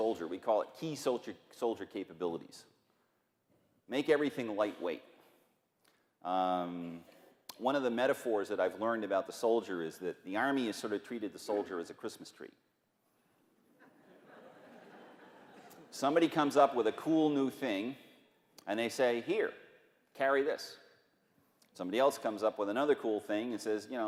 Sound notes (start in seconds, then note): 13.6 laughter